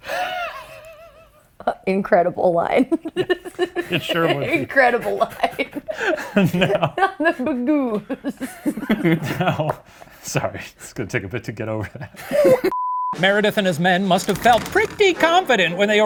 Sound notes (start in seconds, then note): 0.1 The Professor laugh-wheezing; 3.6 laughs